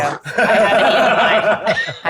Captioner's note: laughs